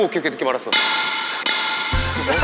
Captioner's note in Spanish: Clang